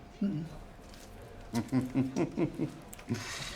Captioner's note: giggling